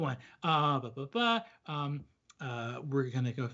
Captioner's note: blabs melodically